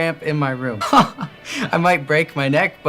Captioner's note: laughs